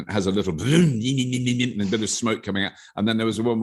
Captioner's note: robert imitating an engine